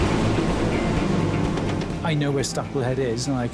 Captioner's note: water roaring; tense music; tense music continues